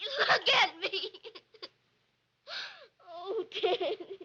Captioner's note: sobbing